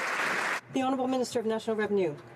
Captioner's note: some Applause